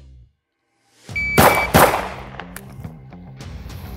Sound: timer beeps; upbeat music; gun bangs

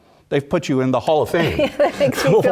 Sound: laugh

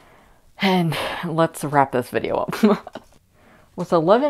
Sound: laughter

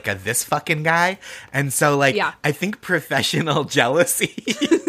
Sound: snickering

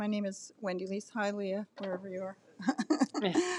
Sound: laughs

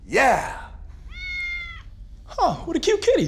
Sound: cat meows

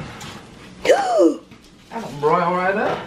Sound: gasps

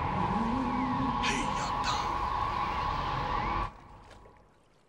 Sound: non-english speech

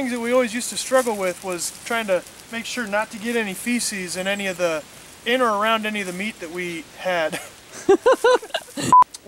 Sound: laughter

